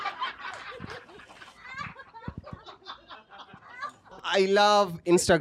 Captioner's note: laughter